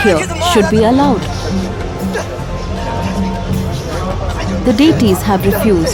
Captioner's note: commotion